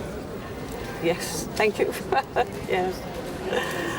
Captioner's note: laughs